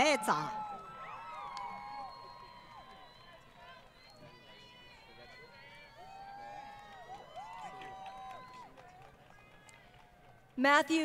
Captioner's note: crowd Cheering & Applause